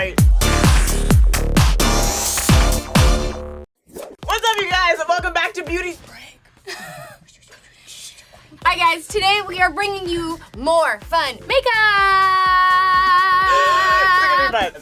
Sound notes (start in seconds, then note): 0.0 upbeat music; 5.9 whispers; 6.6 laughs